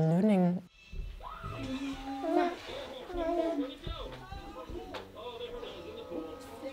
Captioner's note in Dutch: geluid van televisie